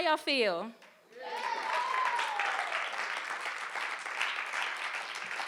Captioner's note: audience applauding